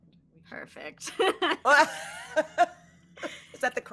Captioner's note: laughing